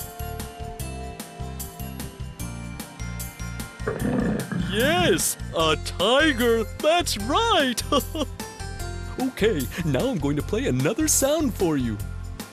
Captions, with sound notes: (SOUND OF A TIGER) YES, A TIGER, THAT'S RIGHT. OK, NOW I'M GOING TO PLAY ANOTHER SOUND FOR YOU.